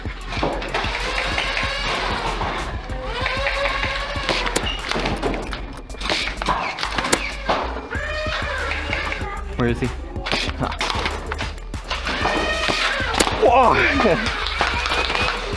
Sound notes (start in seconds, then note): 0.0 footsteps, heavy breathing, motors revving, and darts thunking; 0.2 motors revving and rapid thunking of darts; 3.7 motors revving and rapid thunking of darts from multiple blasters and footsteps; 11.1 motors revving and thunking of darts; 13.4 suprised yelp with trailing laughter